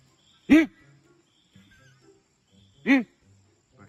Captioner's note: cameraman grunts; cameraman grunts